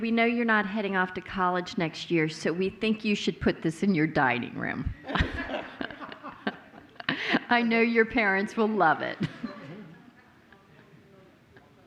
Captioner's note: laughter